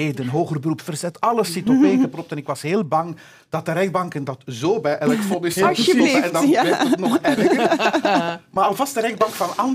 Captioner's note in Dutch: gelach